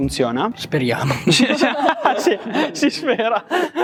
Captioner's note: laughter